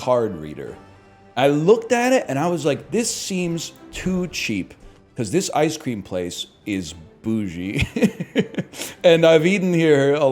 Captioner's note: laughs